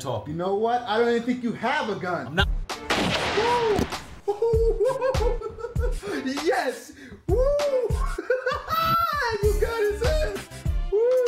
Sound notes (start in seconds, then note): 2.8 gunshot; 7.5 laughing